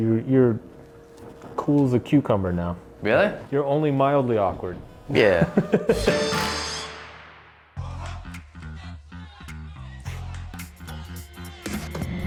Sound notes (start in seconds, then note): 5.1 both laughing; 8.6 upbeat music